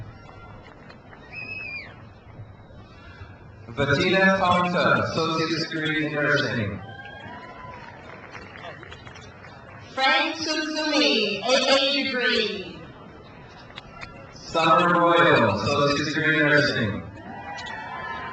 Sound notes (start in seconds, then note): 1.4 man whistles; 6.8 crowd applauds; 17.1 crowd cheers